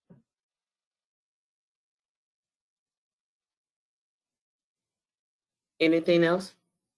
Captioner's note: 5 seconds pause